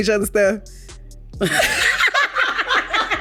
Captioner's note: both laugh